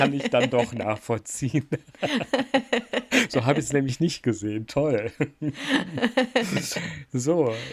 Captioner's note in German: gelächter; gelächter